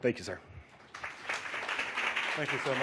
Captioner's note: audience applauds